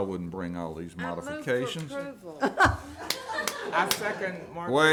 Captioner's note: all laughing